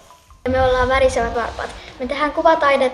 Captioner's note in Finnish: lapsen ääni